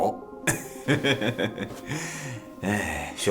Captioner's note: laughs